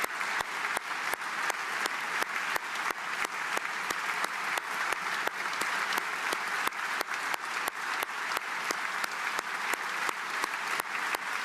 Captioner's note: applause